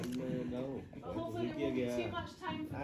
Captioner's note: laughters